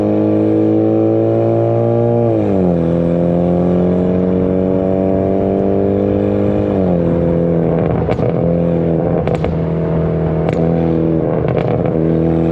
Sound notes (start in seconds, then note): 7.0 exhaust popping